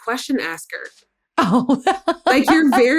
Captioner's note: laughs